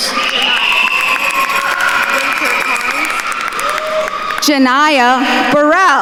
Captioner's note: attendees cheering and applauding